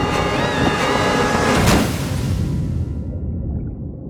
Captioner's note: choc bruyant